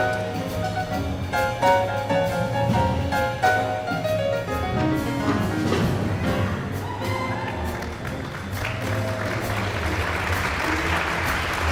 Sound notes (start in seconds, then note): 6.6 audience cheering and applauding